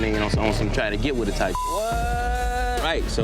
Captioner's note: beep